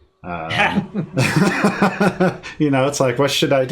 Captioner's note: laughing